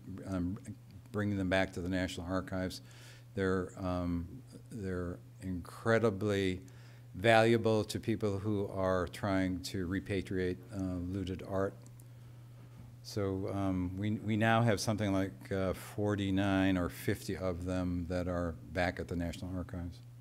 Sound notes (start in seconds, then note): none